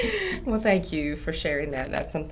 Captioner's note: laughs